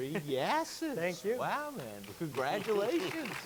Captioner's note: chuckles; audience clapping